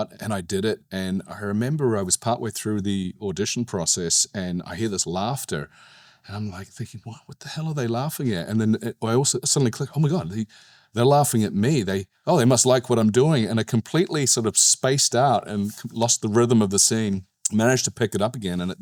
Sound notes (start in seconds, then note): none